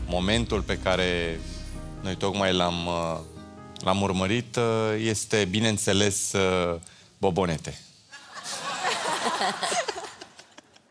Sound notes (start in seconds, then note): 8.2 audience laughing